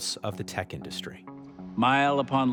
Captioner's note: soundbite of tv show, "the american experience: silicon valley"